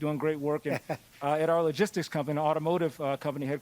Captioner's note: laughs